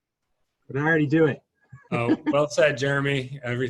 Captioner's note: chuckles